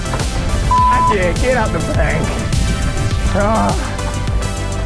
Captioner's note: beep